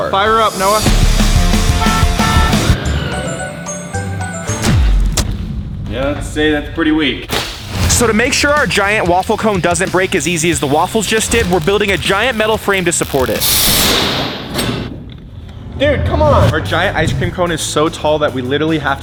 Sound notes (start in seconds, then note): 1.0 dramatic music; 1.1 horn honking